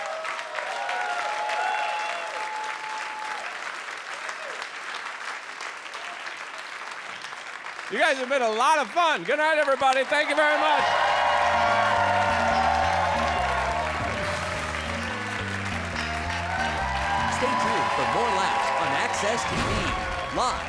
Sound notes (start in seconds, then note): 0.0 audience cheers; 10.8 audience cheers; 11.7 upbeat music